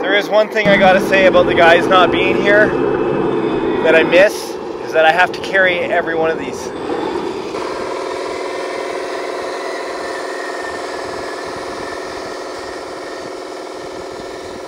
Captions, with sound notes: There is one thing I gotta say about the guys not being here that I miss, is that I have to carry every one of these. (bulldozer engine roaring)